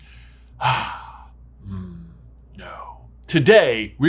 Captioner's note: sighs